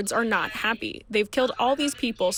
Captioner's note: speaking foreign language